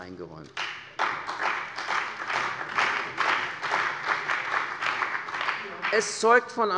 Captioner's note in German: Beifall bei der CDU und dem BÜNDNIS 90/DIE GRÜNEN